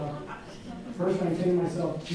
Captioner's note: audience laughing